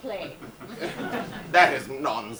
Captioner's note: audience laughs